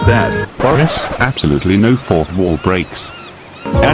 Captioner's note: record scratch